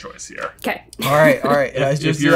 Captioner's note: chuckles